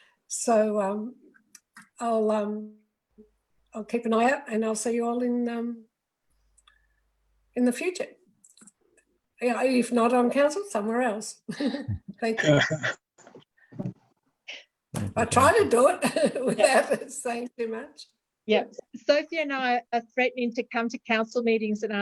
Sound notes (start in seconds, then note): 12.3 chuckles; 12.3 laughs; 16.0 chuckles